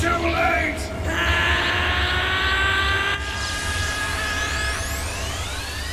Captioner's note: Goku screaming